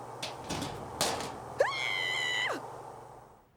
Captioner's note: screams